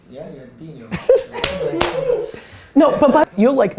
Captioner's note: laughing